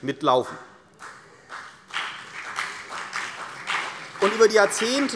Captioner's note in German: Beifall CDU und BÜNDNIS 90/DIE GRÜNEN